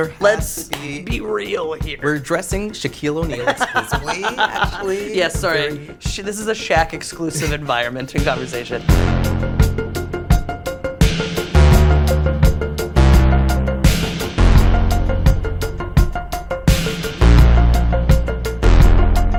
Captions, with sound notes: - There has to be-- - Let's be real here. - We're dressing Shaquille O'Neal exclusively, actually. (laughs) - Yeah, sorry. This is a Shaq exclusive environment and conversation. (theme music)